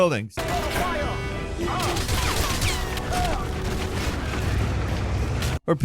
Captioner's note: bullets firing